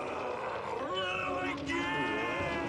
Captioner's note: roars